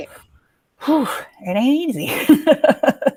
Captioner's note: sighs